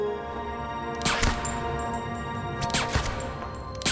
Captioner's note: fires gun